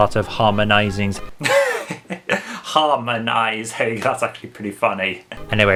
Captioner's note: chuckles